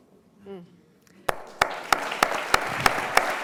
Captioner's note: applause